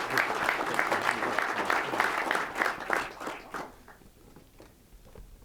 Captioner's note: applause